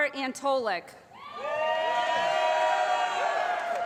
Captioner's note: applause